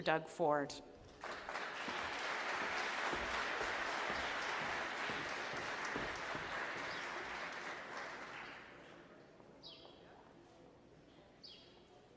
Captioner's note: applause